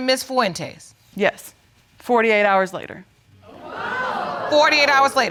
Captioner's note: audience exclaiming